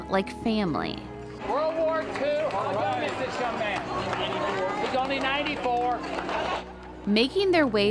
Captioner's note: cheers and applause